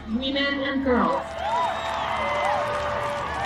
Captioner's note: cheering